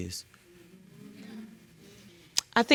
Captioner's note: audience murmuring